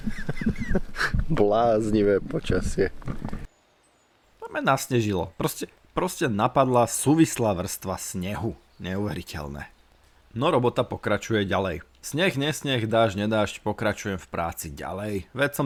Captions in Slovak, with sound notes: [smiech] Bláznivé počasie. To m nasnežilo. Proste, proste napadla súvislá vrstva snehu. Neuveriteľné. No robota pokračuje ďalej. Sneh dážď nedážď. Pokračujem v práci ďalej. Veď